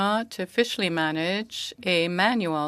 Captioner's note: speaking French